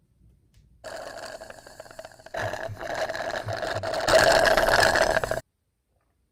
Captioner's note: straw slurping